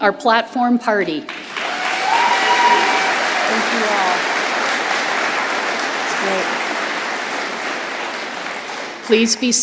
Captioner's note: applause